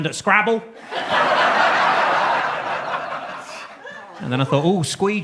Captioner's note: audience laughs